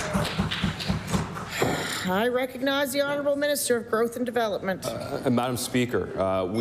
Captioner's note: applause